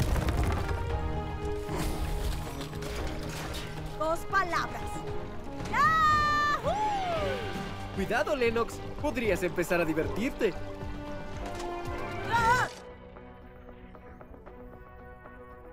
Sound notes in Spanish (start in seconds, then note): 12.2 grita